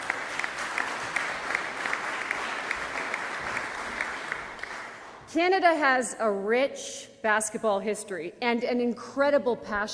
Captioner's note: applause